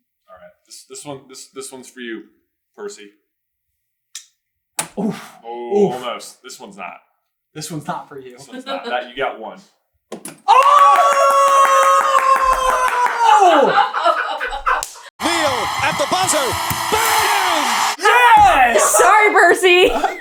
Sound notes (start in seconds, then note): 12.8 team cheering and laughing joyously; 19.8 laughter